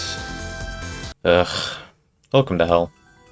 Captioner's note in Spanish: suspiro